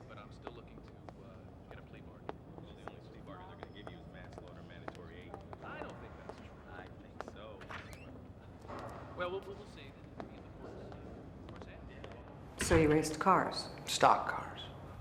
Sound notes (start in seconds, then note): 7.6 door creaking; 9.2 men chattering